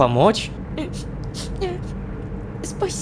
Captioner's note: cries